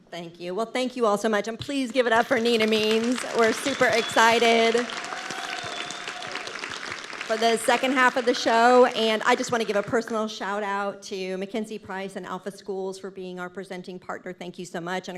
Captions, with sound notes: - Thank you. Well, thank you all so much, and please give it up for Nina Means. (audience clapping) We're super excited for the second half of the show. And I just want to give a personal shout out to MacKenzie Price and Alpha Schools for being our presenting partner. Thank you so much.